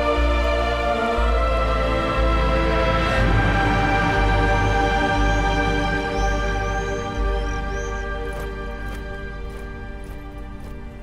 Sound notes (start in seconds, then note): 7.8 Kah'Nath soldier marches